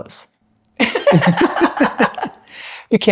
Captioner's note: laughter